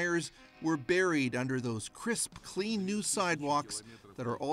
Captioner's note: speaking russian